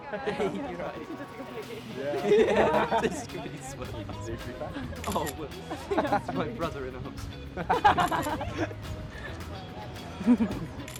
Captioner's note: students chatting and laughing